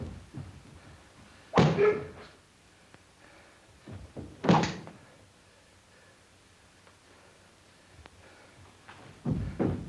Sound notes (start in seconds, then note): 1.7 leg thuds